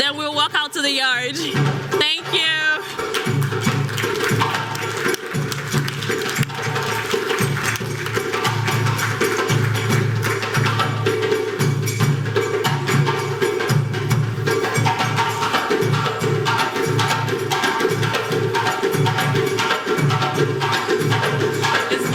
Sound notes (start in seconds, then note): 2.7 cultural drumming; 2.8 applause